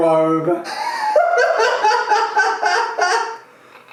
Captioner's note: laughing